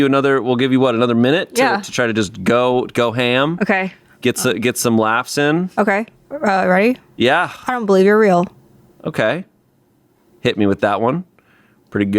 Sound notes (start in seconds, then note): none